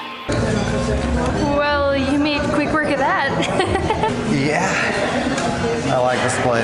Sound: laughter

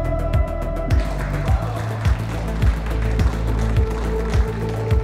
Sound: crowd applauds

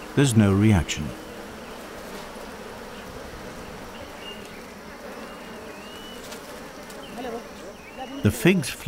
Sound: bees buzzing

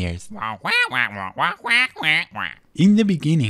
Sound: squawk

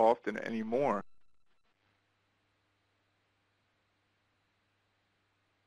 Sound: no audio

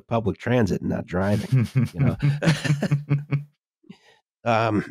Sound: chuckles; laughs

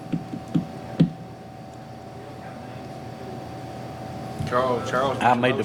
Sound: faintly speaking

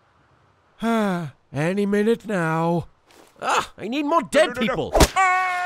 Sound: sigh

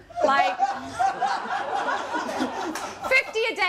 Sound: laughter

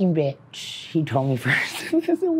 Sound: laughs

